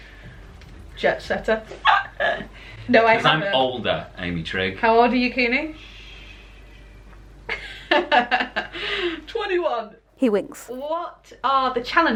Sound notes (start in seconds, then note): 1.8 laughter; 7.5 laughter